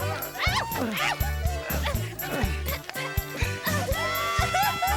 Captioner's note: Bambolona yells; audience laughs